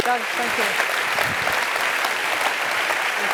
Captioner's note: applause